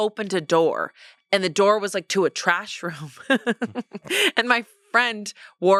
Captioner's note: laughs